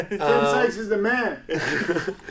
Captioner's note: laughs loudly